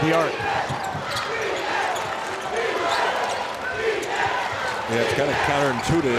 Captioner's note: crowd